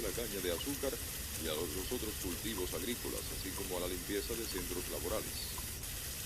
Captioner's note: running water